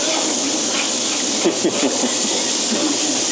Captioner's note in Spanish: risas